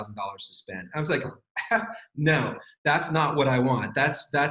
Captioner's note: laughs